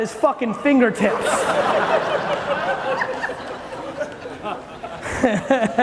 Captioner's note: audience laughing loudly